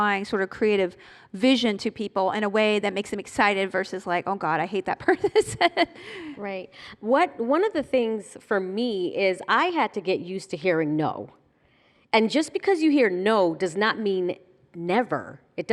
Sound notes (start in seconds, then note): 4.6 laughing